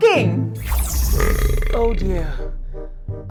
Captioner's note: belch